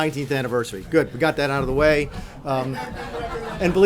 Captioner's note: laughter